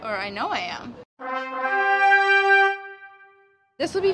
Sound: horns blaring

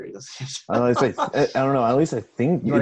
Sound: laughing

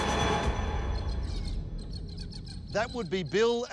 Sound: ominous music; birds squawk

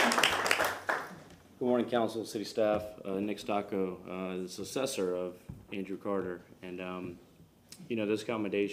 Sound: applause

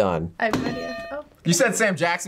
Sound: bell rings

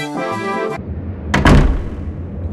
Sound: le door shut

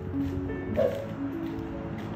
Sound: bark

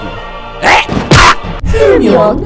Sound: smack

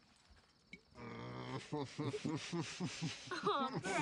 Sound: laughter

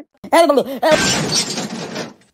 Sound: crash!

